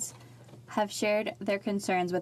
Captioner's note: speaking French